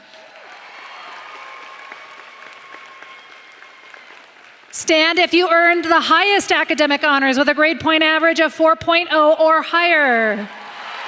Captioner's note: applause